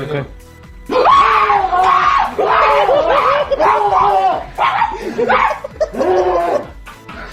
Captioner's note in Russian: Испугано кричит